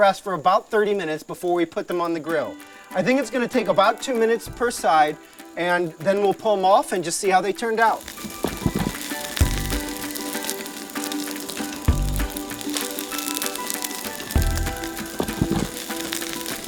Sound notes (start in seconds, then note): 9.2 crackling and sizzling